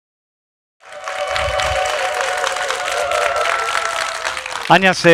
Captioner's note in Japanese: 拍手と歓声